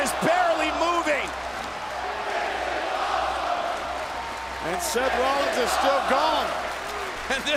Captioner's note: applause